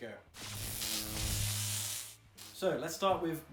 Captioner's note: electricity buzzing